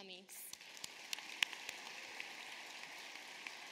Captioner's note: applause